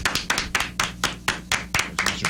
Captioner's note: applause